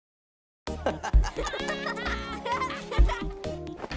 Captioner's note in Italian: Studenti ridono